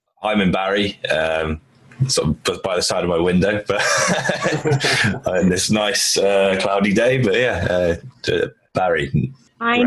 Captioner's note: laughs